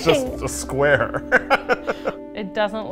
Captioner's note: laughing